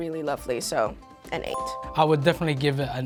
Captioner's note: bell dings